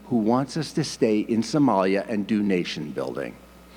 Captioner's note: none